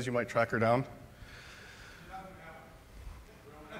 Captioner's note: speaker is off microphone